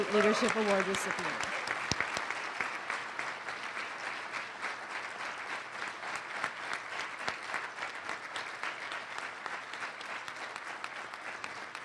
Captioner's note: applause